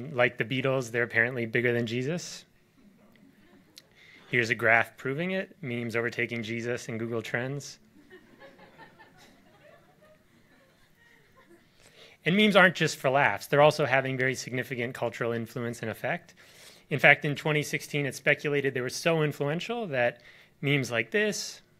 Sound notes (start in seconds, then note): 8.0 audience laughs